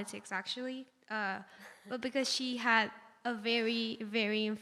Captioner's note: laughs